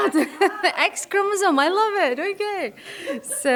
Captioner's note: laughs